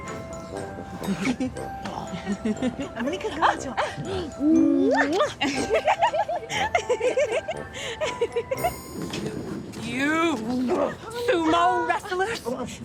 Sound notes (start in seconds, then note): 0.2 calm music; 6.2 girls giggling